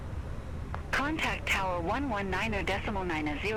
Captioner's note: radio chatter